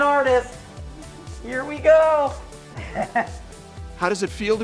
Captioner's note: chuckles